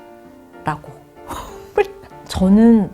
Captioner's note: haha